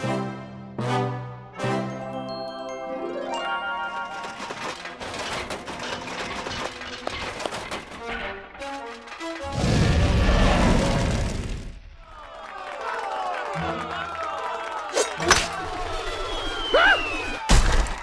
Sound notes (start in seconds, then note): 3.9 metal clanging; 9.8 roars; 11.9 cheers and applause